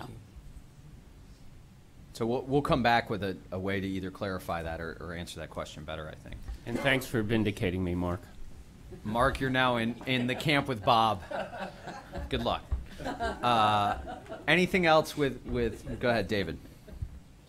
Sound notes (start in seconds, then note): 11.7 laughter